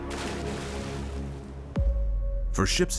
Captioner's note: water splashing